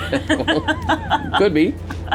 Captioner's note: laughing